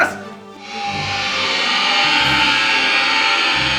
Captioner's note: shrieking